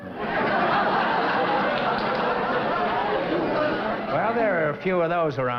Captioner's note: laughter